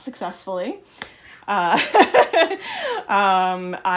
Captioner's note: laughter